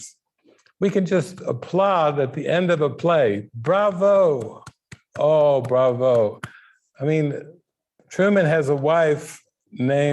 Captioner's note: clap